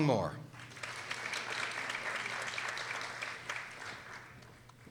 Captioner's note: people applauding